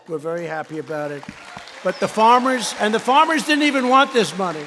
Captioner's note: applause